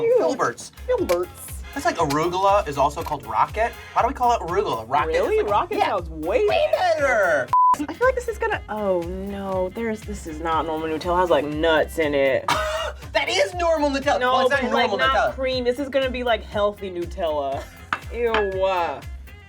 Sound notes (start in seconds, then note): 7.5 electronic bleeps; 14.3 laughs